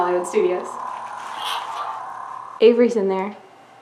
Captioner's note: lightsaber sound